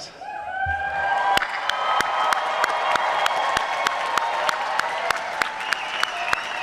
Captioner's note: clapping